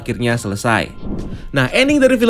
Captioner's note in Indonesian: suara transisi